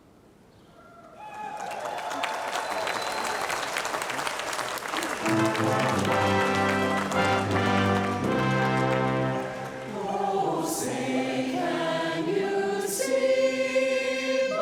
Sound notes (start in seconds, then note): 0.6 cheering; 9.4 singing